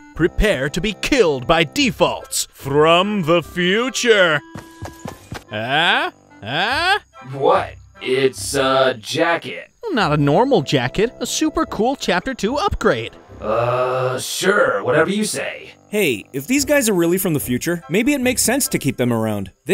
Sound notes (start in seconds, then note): 5.6 grunting questioningly